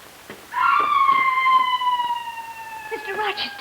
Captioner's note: screaming